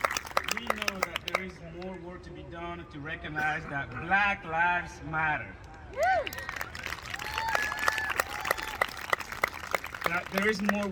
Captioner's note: applause